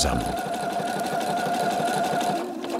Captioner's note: chattering